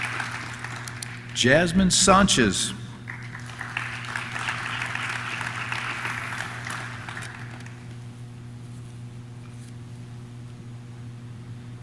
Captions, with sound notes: Jasmine Sanchez. (audience claps)